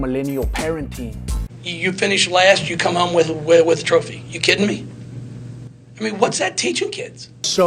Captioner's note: wise noises